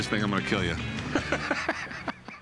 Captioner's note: laughs